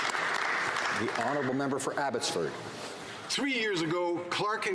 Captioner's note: some Applause